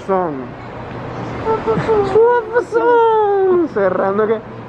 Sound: making high-pitch noises

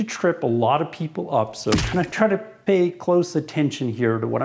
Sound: thumping

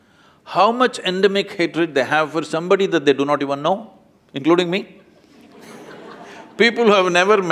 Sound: laughter

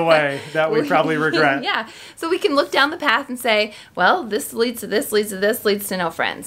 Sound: chuckles

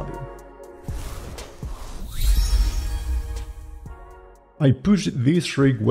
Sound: logo whooshes

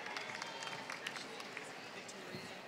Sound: applause

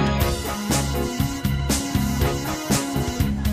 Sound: motorcycle engine revving

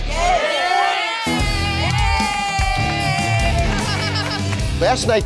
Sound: cheers

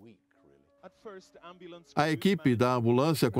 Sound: voiceover

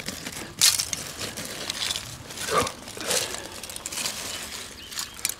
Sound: rifle clips rattling

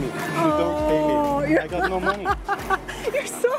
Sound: laughs

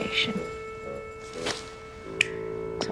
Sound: clicks fingers

